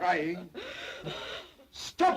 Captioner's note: Mary sobs